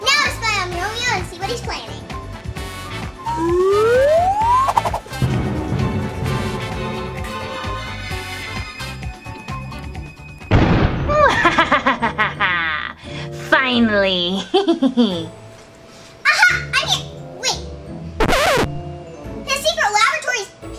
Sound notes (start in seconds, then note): 3.2 assistant whizzing; 5.0 scary music; 5.0 assistant whooshing; 10.7 transition booming; 11.2 Romeo laughing